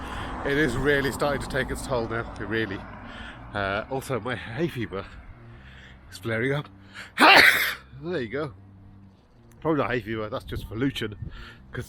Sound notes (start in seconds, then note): 7.1 sneezes